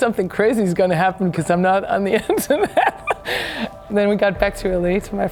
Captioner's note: laughs